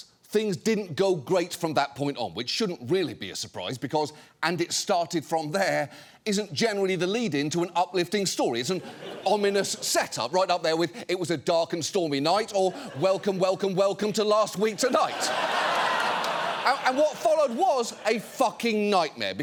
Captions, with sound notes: things didn't go great from that point on, which shouldn't really be a surprise because "and it started from there" isn't generally the lead-in to an uplifting story. It's an ominous set-up, right up there with "it was a dark and stormy night" or “welcome, welcome, welcome to Last Week Tonight.” (AUDIENCE LAUGHING) And what followed was a fucking nightmare,